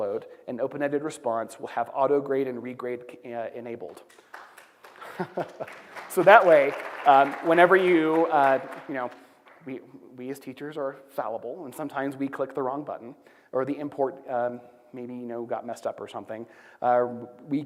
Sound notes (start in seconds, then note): 4.1 applause; 5.0 laughs